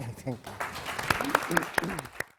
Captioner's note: applause